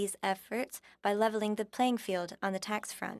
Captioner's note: speaking French